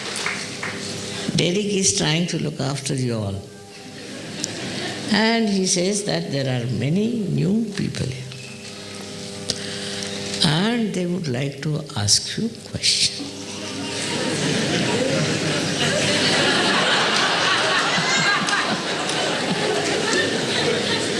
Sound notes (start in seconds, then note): 1.1 laughing; 11.4 laughter